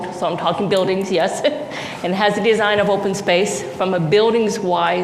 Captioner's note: laughs